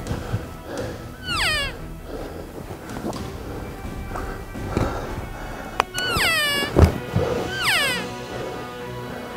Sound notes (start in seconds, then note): 0.0 dramatic Music Continues; 1.1 cow Call; 2.4 heavy Breathing; 5.7 cow Call